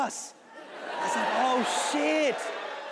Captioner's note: audience cheering